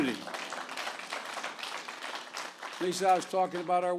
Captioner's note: applause